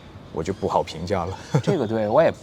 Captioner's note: laughs